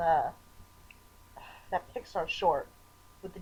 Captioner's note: sigh